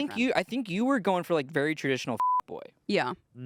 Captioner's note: beep